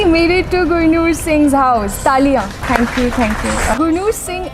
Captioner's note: claps